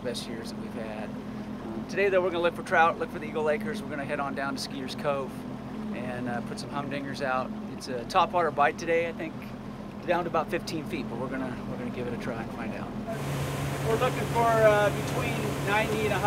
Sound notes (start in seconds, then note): 13.7 boat engine running